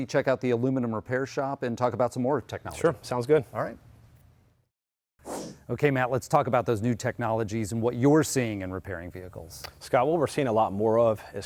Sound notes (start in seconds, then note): 5.2 whoosh sound